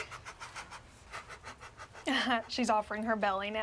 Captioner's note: laughs